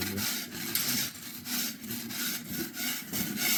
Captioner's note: scraping